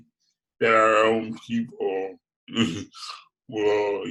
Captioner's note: giggles